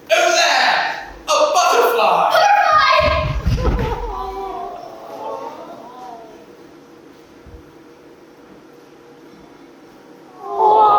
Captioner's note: audience awws